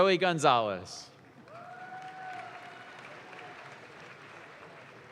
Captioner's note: audience claps